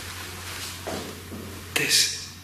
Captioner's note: faint banging